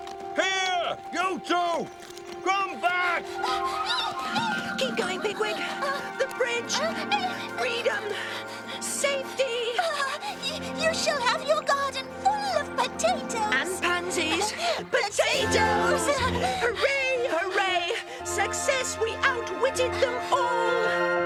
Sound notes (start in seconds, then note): 1.8 squealing